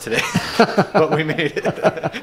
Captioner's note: laughs